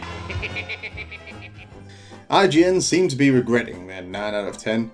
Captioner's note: Skeletor Laughing